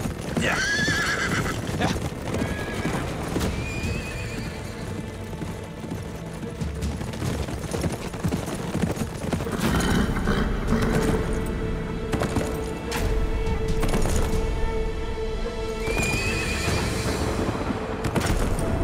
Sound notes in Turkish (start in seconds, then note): 9.2 At kişniyor; 13.2 Gerilim müziği